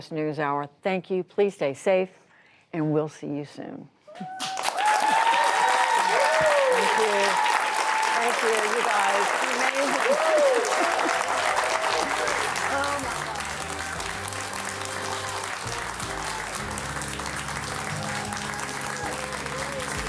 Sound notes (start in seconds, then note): 7.5 applause